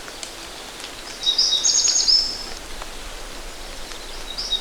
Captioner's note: birds tweeting